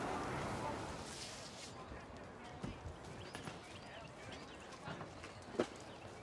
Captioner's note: crowd talking in background; crowd and traffic mulling around